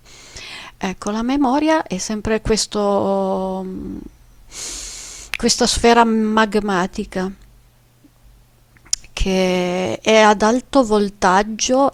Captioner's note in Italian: sbuffare